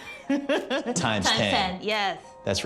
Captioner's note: chuckles